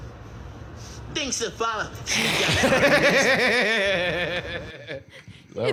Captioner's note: both laughing